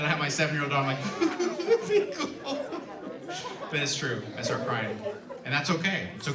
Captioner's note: fake sobbing